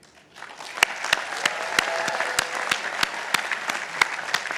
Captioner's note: participants applauding